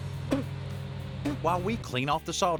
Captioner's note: spitting